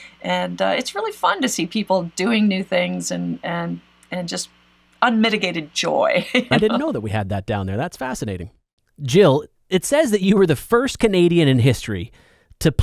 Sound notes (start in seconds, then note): 6.2 laughs